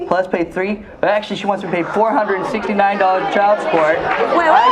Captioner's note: audience murmuring